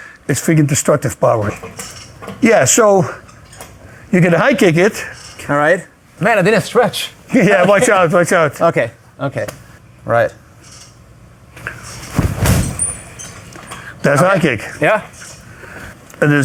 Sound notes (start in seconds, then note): 7.4 laughs; 11.7 equipment clattering; 12.0 foot thuds